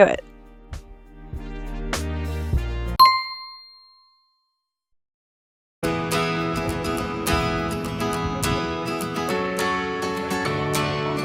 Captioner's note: bell ding